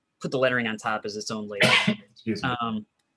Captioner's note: sneezing